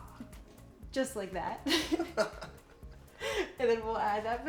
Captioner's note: both laugh